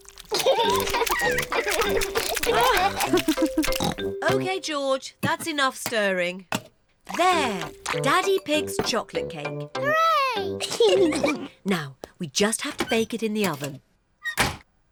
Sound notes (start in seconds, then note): 0.3 both laugh; 2.1 laughs and oinks; 10.3 giggles